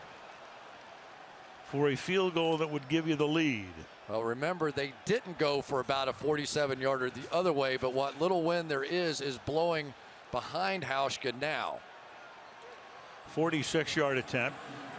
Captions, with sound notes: and he's made them all. [cheering] Ryan will hold. This to give Seattle the lead. Otherwise, Minnesota gets the ball at the 36. Gresham to snap it.